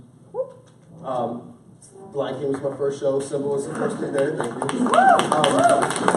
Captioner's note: applause